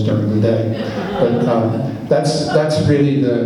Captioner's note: laughs